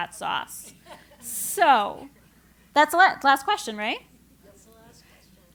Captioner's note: laugh